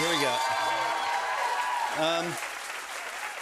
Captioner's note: cheers and applause